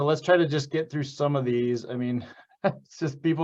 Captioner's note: chuckles